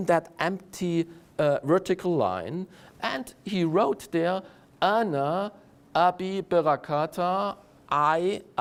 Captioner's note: Hebrew